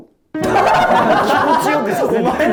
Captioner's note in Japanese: 一同：笑い